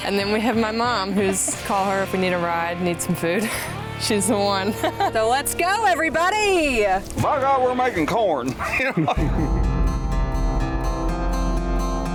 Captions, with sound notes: and then we have my Mom whose call her if we need a ride, need some food. She's the one. So let's go everybody! - By God, we're making corn! (laughing) (Gentle guitar music)